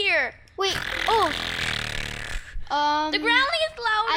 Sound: growling

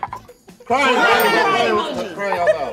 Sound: bell dings; bell dings

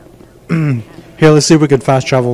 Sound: clears throat

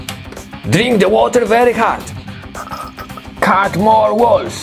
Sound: slurps

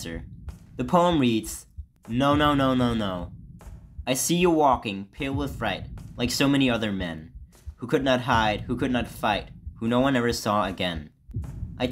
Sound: reading aloud

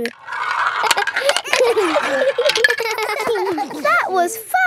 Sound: all giggling

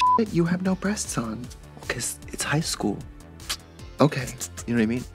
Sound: kissy sound

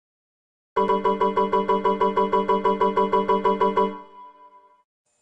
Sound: error sounds

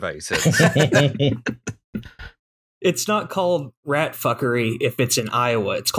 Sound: laughter

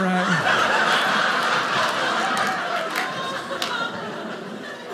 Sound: audience laughing

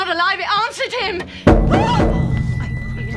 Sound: banging

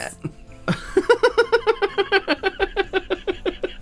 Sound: nervous Laughter

